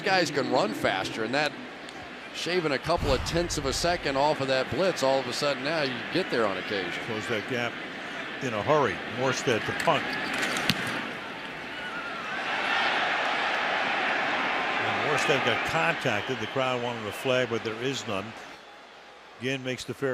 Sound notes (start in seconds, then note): 12.7 crowd exclaims